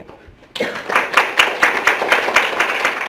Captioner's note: audience applauds